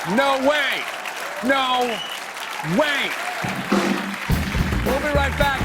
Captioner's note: cheers and applause